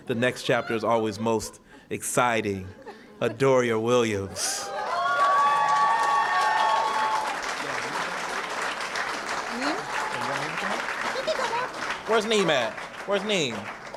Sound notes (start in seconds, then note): 4.9 cheering & applause